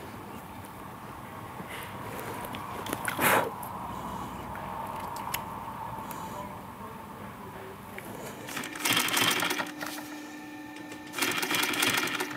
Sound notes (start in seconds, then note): 2.8 blowing; 8.4 machine rattling